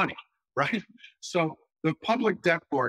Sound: laugh

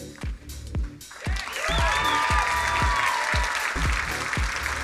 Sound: crowd applauding

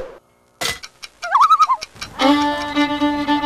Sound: loon call

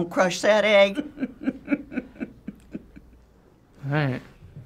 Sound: chuckles

